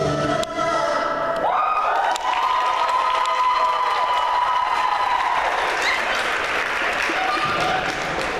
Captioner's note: applause